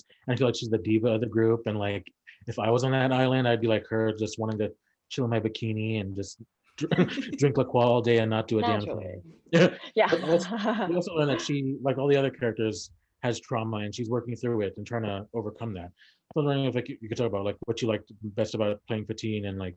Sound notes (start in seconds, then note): 10.0 all laugh